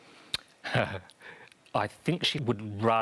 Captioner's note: laughs